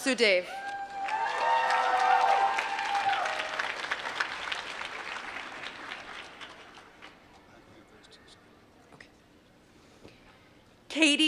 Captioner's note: applause